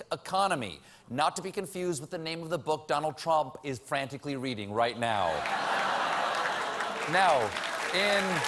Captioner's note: applause; laughter